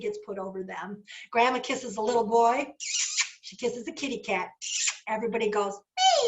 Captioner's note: kiss